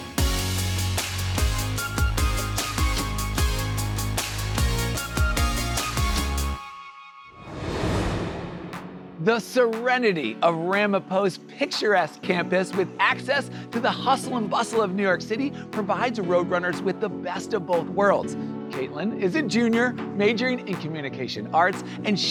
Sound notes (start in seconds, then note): 0.0 upbeat music; 7.3 air swooshing